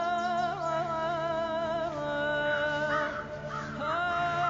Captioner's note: birds caw